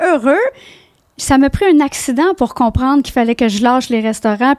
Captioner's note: in french